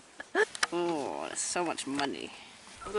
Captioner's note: strange accent